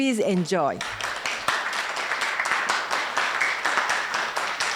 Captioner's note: applause